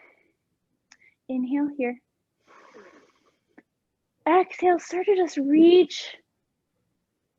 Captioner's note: inhaling